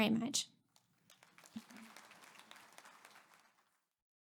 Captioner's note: audience applauds